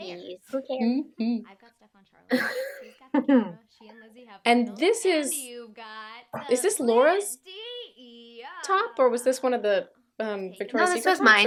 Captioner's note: laughter